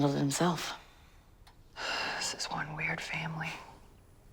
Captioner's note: sighs